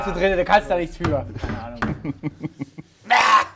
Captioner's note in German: Lachen